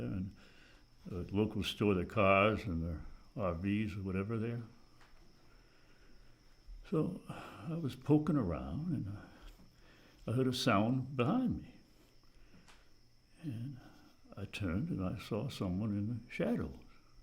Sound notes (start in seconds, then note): none